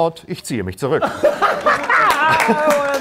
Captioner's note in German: Lachen, Klatschen